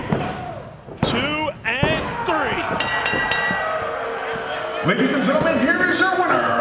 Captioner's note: bell rings